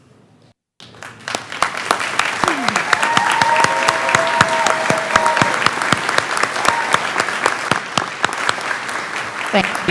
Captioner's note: clapping